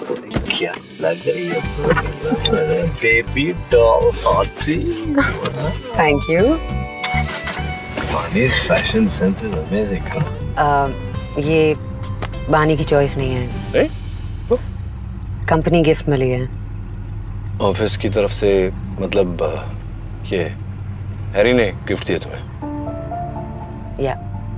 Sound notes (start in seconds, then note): 1.8 door closes; 4.8 Ananya laughs; 7.0 engine starts